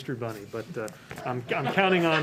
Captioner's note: laughtht